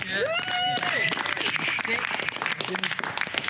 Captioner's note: applause